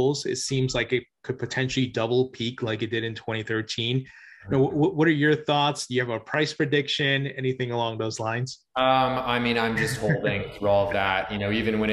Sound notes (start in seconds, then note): 9.6 chuckles